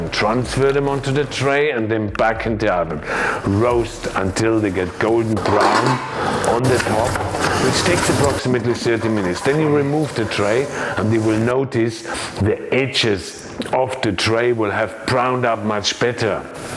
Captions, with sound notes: transfer them onto the tray, and then back into the oven. Roast until they get golden brown on the top (potatoes thudding) which takes approximately 30 minutes. Then, you remove the tray and you will notice the edges of the tray will have browned up much better.